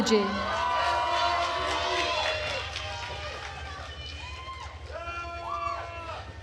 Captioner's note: attendees cheering and applauding